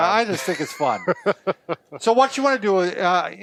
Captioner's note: laughter